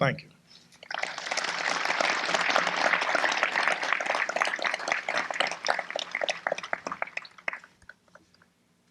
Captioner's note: applause